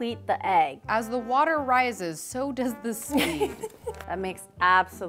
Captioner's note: laughs